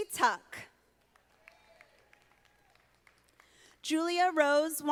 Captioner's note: audience applauding